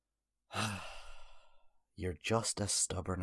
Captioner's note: sighs